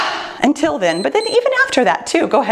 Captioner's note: timer beeps